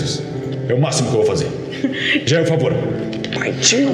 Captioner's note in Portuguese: risada